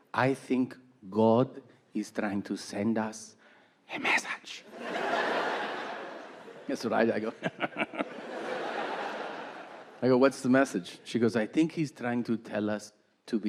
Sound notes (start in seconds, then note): 4.7 audience laughing; 7.4 Tom chuckling